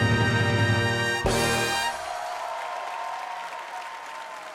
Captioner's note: audience cheering